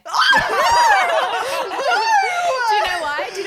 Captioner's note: laughing